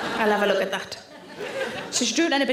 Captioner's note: audience laughing